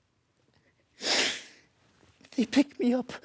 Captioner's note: soft breathing; sharp breath in